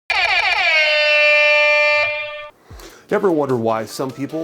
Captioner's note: buzzer blaring